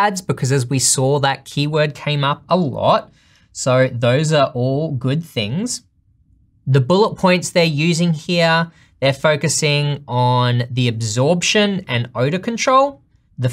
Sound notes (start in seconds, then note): none